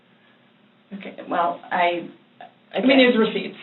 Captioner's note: stammers